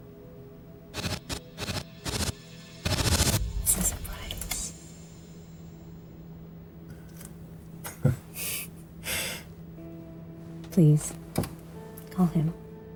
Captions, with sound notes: (Static buzzing) - It's a surprise. (Ronnie chuckles) Please, call him.